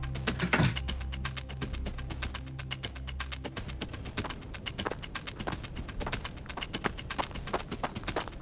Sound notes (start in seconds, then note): 0.4 door bangs